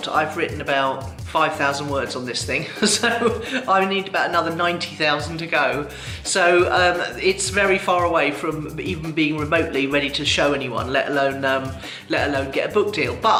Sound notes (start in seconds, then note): 2.7 laughs